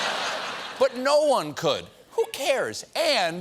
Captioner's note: laughter